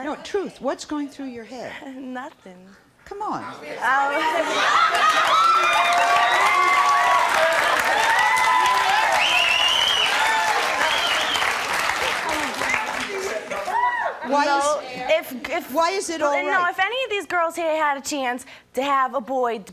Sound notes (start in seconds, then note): 1.9 laughs; 4.4 audience laughing; 4.4 cheering and clapping